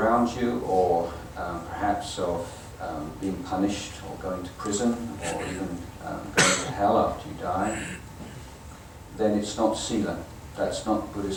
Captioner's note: audience coughing